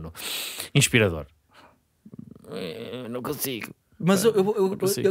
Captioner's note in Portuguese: voz debilitada